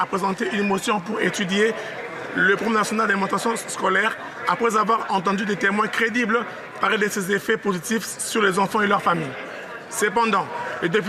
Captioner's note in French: voix de l'interprète